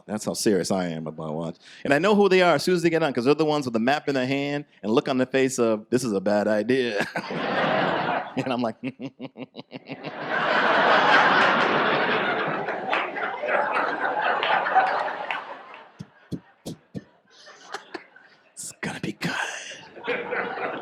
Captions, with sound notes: That's how serious I am about watch... And I know who they are as soon as they get on 'cause they're the ones with the map in their hand and look on their face of this is a bad idea. (audience laughs) And I'm like... (menacing laughter) (audience laughs) (spits) It's gonna be good.